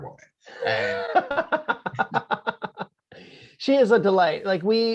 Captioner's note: laughing